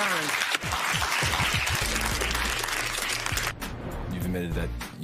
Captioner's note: applause